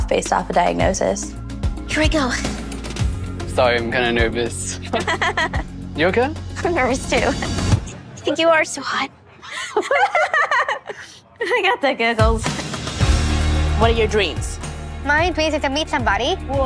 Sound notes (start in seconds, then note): 4.8 laughs awkwardly; 9.4 giggles